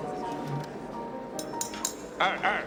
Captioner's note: knife clinking